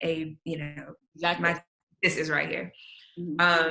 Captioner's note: audio distorts